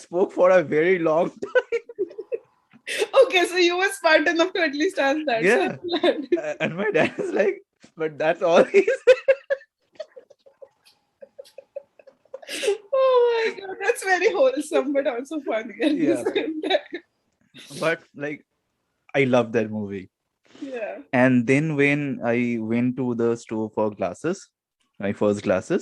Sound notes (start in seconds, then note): 11.1 laughter